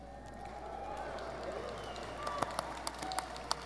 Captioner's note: audience cheering